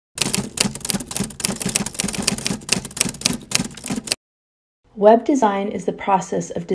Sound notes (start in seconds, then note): 0.2 keyboard clacking